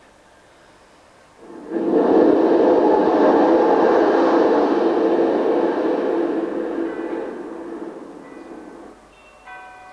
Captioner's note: shri mataji blows into the mic